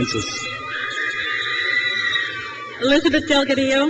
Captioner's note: crowd cheers